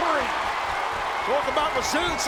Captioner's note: audience cheering and clapping